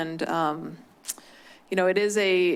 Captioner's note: clicks tongue